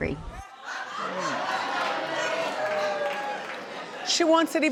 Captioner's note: audience laughing